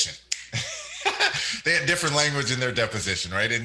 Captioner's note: laughs